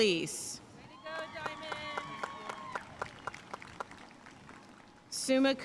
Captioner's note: audience cheering and applauding